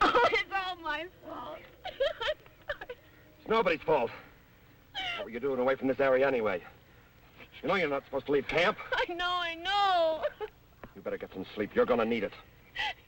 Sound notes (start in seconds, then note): 0.4 pat; 1.8 sobbing; 9.7 sobs